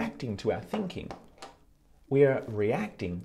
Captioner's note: sunglasses tapping